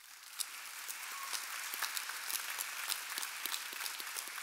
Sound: audience applauding

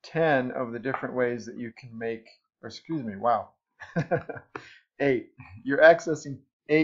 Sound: awkward laugh

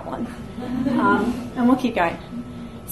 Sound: audience laughs

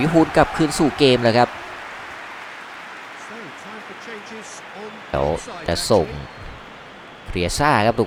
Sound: applause

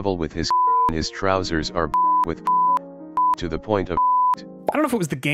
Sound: beep

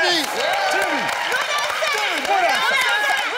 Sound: cheering

